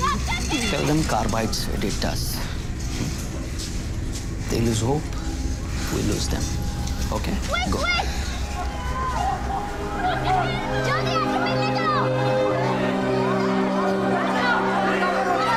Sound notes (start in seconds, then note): 7.8 cries from multiple people